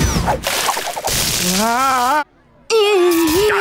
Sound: screaming

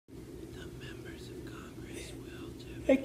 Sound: low murmur

